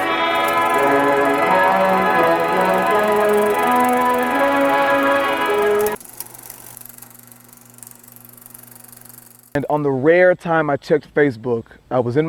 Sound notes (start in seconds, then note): 6.3 old film projector